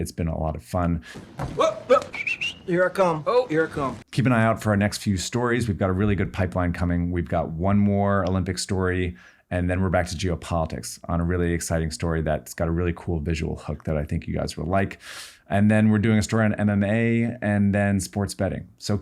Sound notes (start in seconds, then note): 1.9 whistles